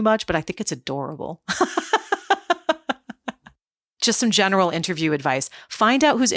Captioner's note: laugh